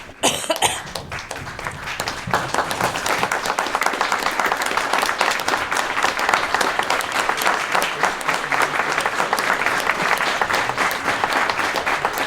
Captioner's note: applause